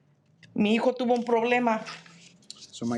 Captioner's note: speaking in Spanish